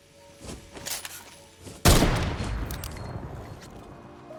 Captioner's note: gunshots firing